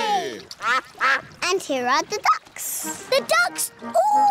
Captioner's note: quacking